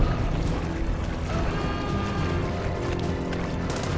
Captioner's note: water flowing